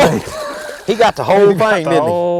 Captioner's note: splash